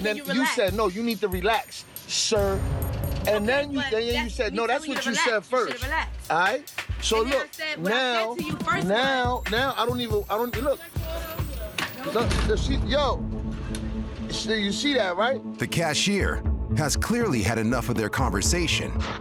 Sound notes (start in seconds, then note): 10.9 indistinct chatter